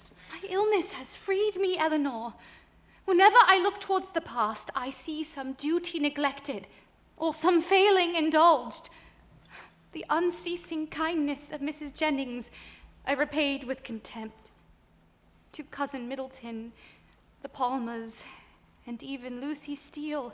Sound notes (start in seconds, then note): none